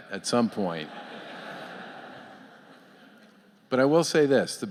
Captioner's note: laughter